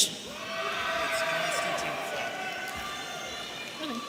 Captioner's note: audience cheering